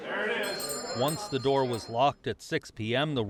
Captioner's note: bell chiming